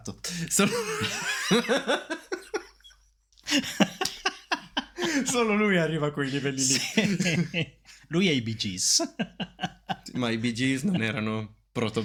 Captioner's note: laughters